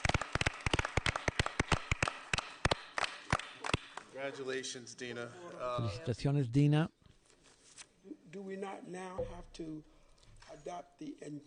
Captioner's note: applause